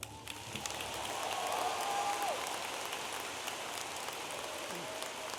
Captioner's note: audience applauding and cheering